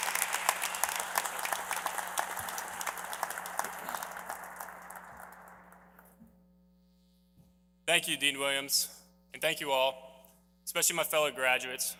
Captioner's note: applause